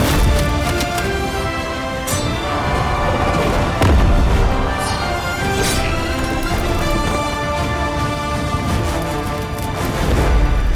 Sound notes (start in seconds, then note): 0.3 hit thuds; 1.2 dramatic music; 4.1 explosion booms; 5.9 swords clank; 6.7 dramatic music